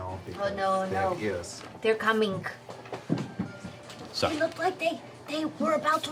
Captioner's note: whispering